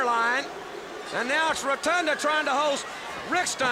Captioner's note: crowd cheering